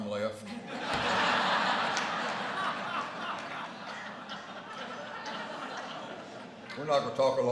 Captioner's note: laughter